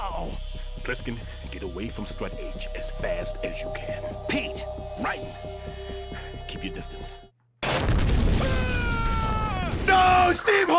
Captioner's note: screams